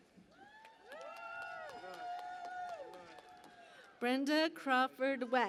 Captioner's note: cheering and Applause